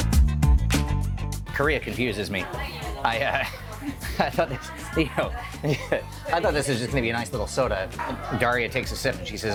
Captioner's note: laughing